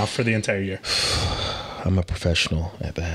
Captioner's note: sighing deeply